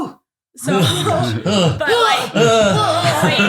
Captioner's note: groaning